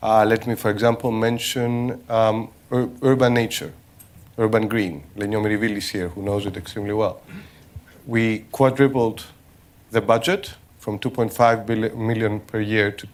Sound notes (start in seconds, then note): 5.3 non-english